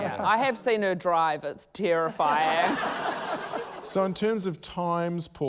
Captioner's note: laughter